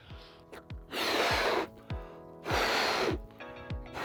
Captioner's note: air filling ballon